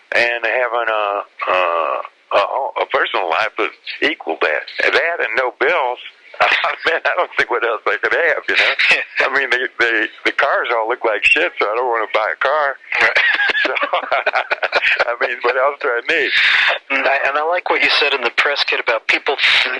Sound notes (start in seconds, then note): 12.9 both laugh